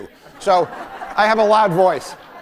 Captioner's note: laughter